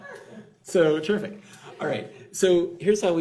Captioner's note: laughs